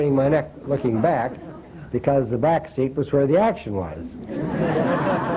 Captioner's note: laughter